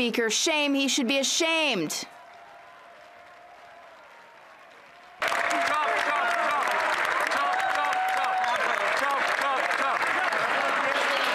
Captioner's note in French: applaudissements